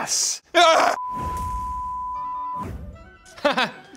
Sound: high-pitched tone beeping; laughs

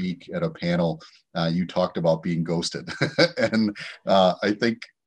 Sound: chuckles

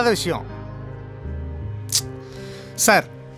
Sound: sigh

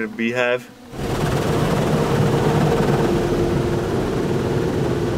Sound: car wash whooshing

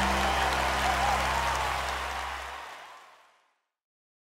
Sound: audience applause

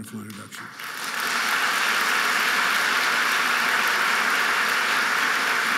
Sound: audience applauding

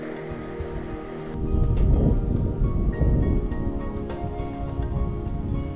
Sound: sound of the wind blowing

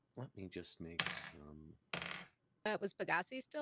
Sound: dice tapping

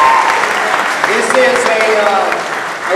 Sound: cheers and applause

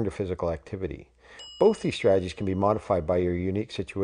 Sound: bell

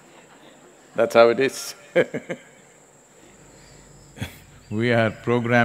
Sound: laughter; laughs

